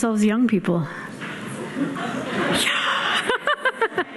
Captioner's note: audience laughing; laughing